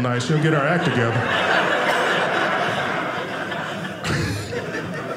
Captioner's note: audience laughing